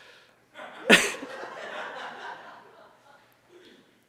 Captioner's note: presenter chuckles; audience laughs